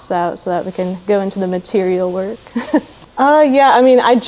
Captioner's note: laughs